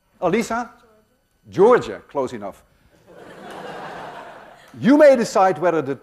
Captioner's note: laughter